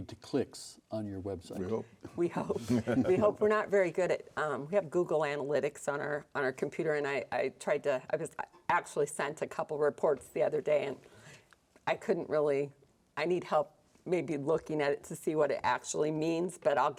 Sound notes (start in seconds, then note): 2.6 chuckles